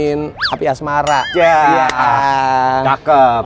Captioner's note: laughter